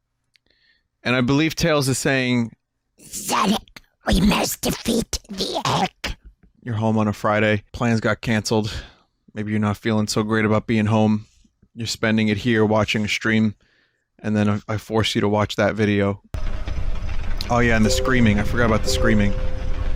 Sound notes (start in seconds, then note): 3.1 gurgling voice, enunciated